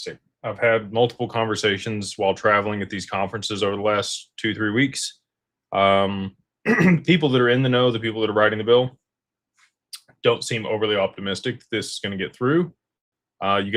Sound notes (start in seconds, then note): 6.6 clears throat